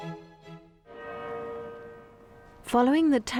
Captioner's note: church bells ringing